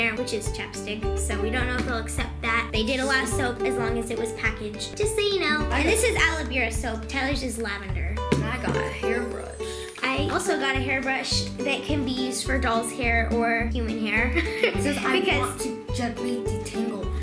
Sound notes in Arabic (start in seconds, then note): 14.4 يضحك